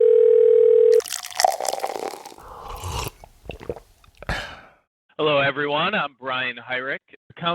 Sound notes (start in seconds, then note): 0.0 phone rings; 0.9 coffee pours; 2.8 drinker sips coffee